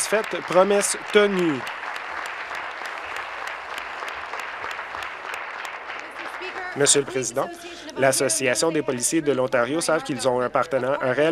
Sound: applause

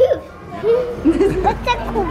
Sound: giggles

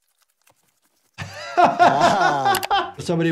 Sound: Jordan laughs

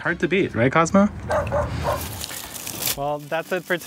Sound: dog barking

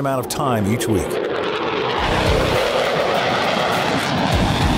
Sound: wind blowing

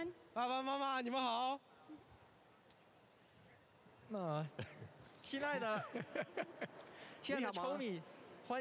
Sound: speaking native language

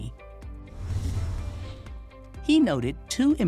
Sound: frame whooshes

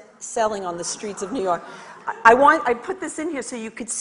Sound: audience laughs and chatters

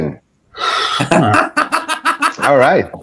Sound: laughter

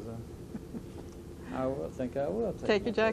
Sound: laughter

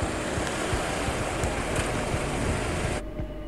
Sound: chattering street voices

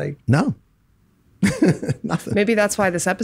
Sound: laughs

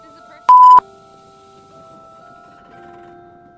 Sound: beep

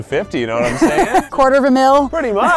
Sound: laughs

